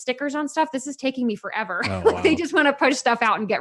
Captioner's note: laughs